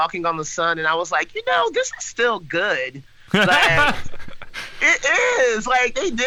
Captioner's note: all laugh